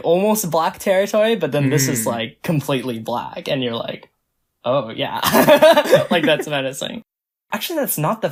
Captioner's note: both laugh